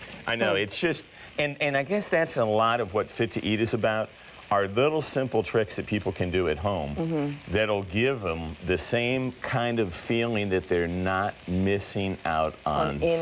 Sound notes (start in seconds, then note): none